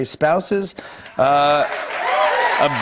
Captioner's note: cheers and applause